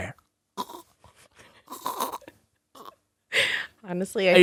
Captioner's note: laughs; choking